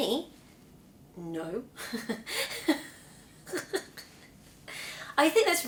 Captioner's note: laughs